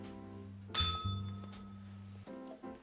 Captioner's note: bell rings